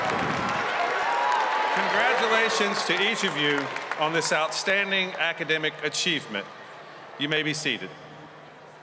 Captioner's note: cheers and applause